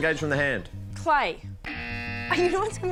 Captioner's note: buzz!